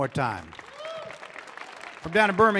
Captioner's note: audience clapping